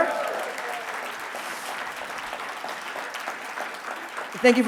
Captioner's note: audience applauding